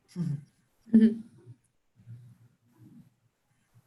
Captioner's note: chuckling